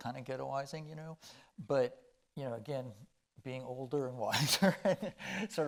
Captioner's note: chuckling